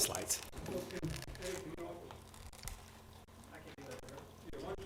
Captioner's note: group chatting quietly